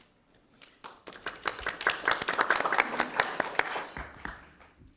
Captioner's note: audience applauding